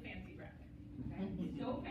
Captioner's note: laughter